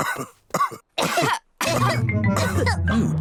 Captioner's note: coughs; all cough